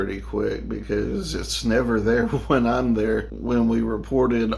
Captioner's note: laughing